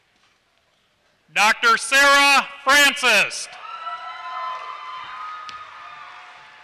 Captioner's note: applause